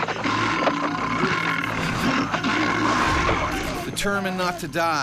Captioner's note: bear growling; voiceover